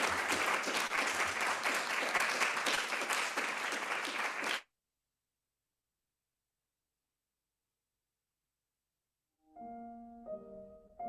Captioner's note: applause